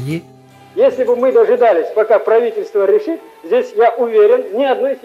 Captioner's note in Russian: голос Мустафы Джемилева